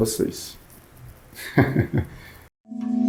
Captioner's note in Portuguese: risos